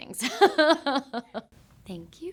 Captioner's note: Shailene laughing